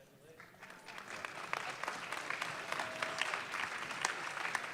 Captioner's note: audience clapping